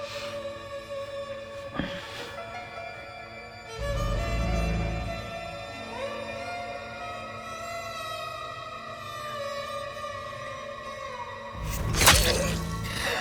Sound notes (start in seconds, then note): 2.5 Rachel sighs; 11.6 knife plunges; 11.8 person grunts